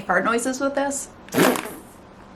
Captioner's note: fart noise